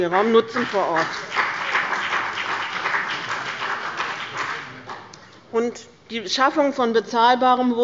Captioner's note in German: Beifall bei dem BÜNDNIS 90/DIE GRÜNEN und der CDU